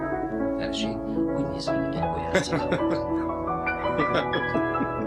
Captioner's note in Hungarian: cár hangosan nevet